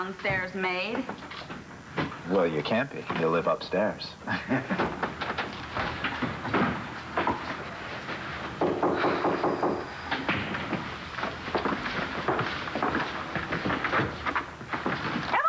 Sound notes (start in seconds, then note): 10.4 knock on door